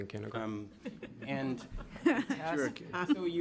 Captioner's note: members laughing